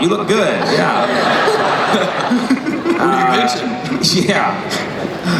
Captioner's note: laughing